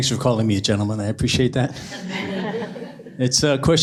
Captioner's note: laughter